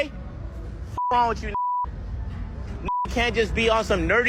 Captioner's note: beep